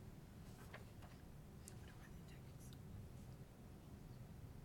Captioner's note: whispering